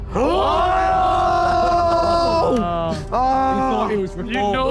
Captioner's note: dramatic music; Sidemen cheer